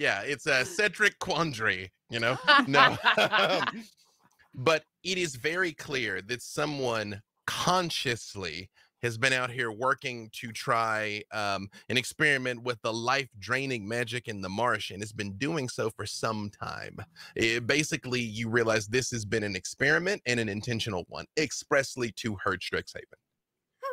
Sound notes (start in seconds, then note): 2.2 laughing